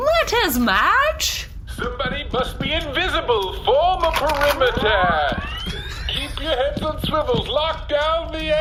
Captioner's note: charges blaster